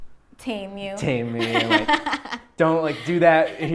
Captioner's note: laughs